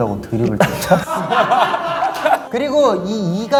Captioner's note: laughing